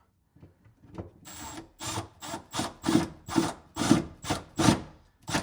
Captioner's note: tool whirring